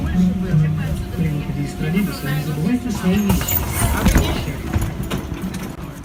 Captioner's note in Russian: открытие дверей